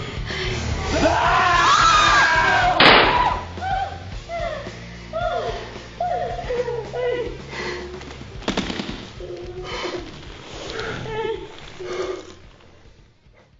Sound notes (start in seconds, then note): 1.2 Tim yelling; 2.8 gun firing; 8.0 sobbing